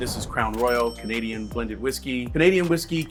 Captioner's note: cash register dings